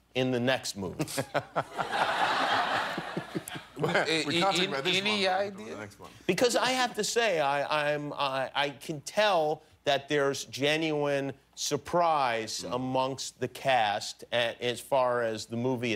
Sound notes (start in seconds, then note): 1.0 laughter